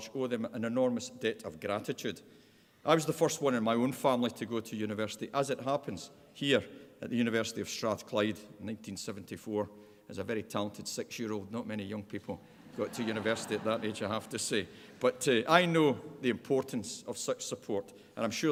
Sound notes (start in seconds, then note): 12.5 laughter